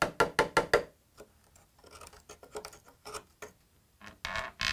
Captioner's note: hammer taps; wood scraping; wood squeaks